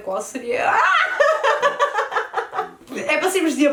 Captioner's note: laughs